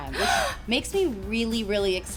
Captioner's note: gasps